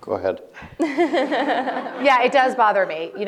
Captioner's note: laughs